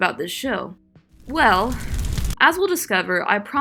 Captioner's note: fire crackling ominously